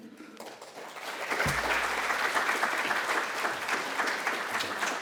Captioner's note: applause